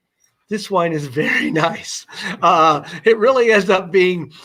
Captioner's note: laughter